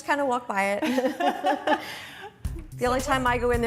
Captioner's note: laughter